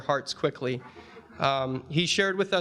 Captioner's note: audience chuckling